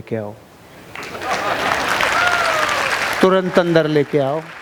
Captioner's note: round of applauses